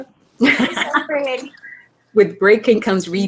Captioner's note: ladies laughing